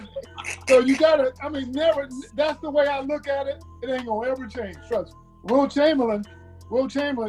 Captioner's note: laughter